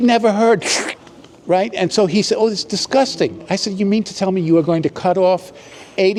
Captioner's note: slurping sound